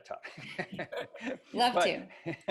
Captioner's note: laughs